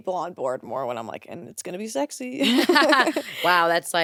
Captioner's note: laughs